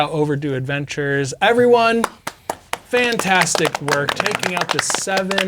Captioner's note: all applauding